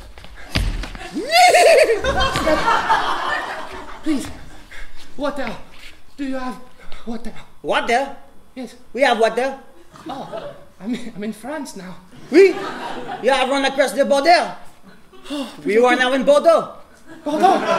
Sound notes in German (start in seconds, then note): 1.2 Pferd wiehern; 7.6 französischer Akzent